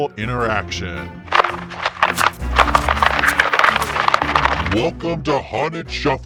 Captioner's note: paper crunching